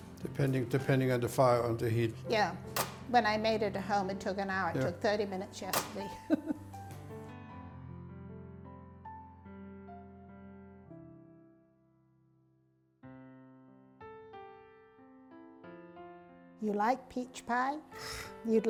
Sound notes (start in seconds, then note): 6.2 laughs